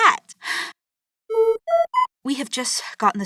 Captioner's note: PSA notice tone